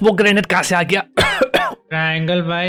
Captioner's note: coughing